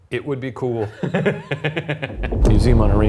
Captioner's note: laughing